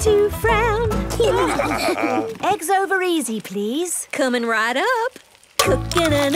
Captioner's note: laughing